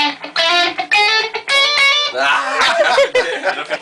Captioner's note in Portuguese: Risos